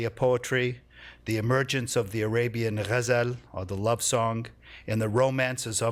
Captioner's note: non-english